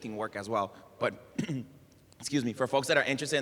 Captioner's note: cough